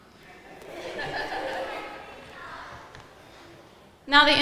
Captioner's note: audience laughing